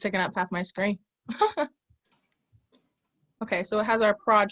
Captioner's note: laughs